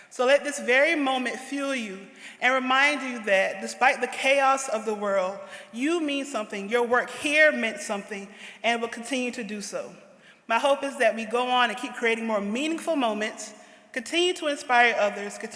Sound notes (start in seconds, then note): none